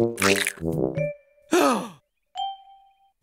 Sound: gasp

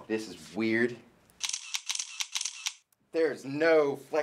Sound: camera shutter clicking

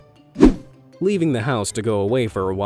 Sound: image whooshing

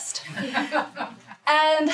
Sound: group laughs

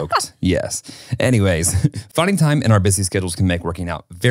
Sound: laughs

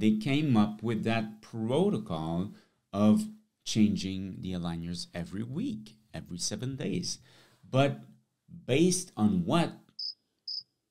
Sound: crickets

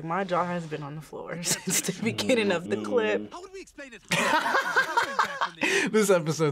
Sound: laughs

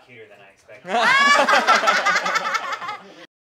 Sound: laughter

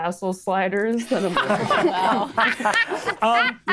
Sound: players laughing

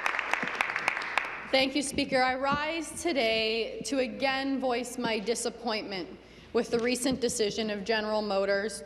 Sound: some Applause; applause

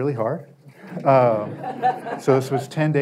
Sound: audience laughter

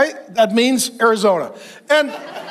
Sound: congregation laughs

